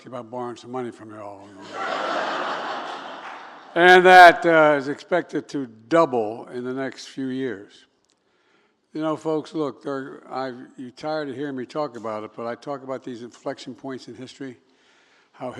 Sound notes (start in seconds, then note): 1.5 laughter